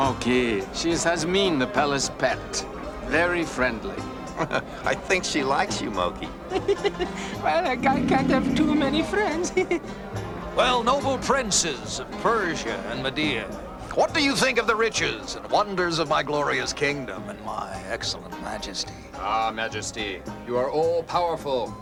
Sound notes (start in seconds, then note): 6.5 laughs nervously; 6.5 laughs